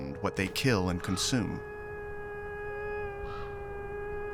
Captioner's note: wolves howling